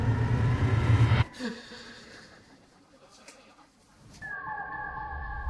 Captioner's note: Lohemann gasps